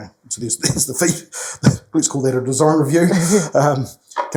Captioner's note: chuckles; chuckles